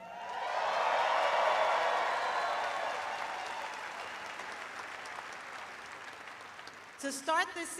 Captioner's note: cheers and applause